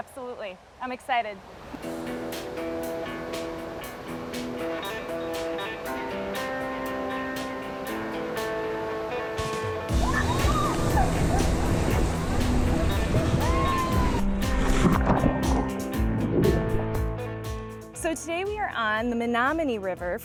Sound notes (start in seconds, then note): 2.0 upbeat guitar music; 2.0 water rushing; 10.4 people screaming